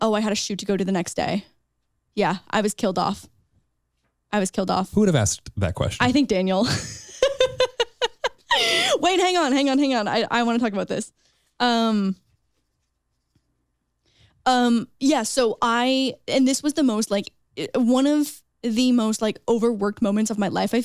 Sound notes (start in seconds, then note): 6.6 chuckles